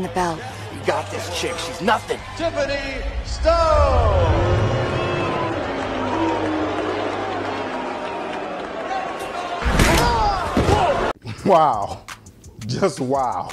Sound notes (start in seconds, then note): 4.5 crowd cheering; 9.8 grunts